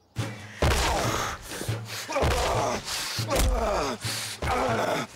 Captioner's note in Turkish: Bağırıyor